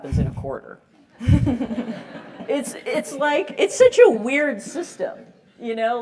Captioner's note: laugh